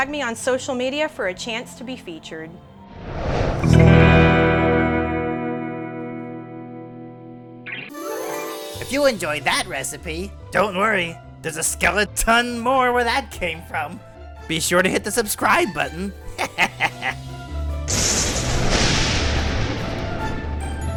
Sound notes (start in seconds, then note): 3.6 guitar strum; 15.8 laughs; 17.7 upbeat spooky music